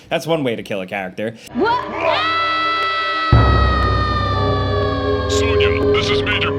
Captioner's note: screams